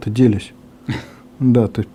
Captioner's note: chuckles